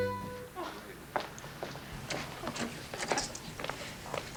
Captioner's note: Ginger chuckles; light music; group chattering